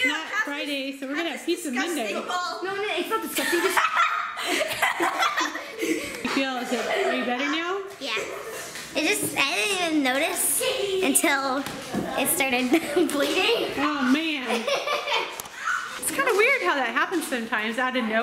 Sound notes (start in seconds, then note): 3.7 kids laughing